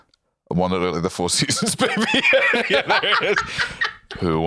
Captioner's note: laughs